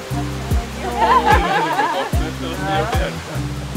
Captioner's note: laughter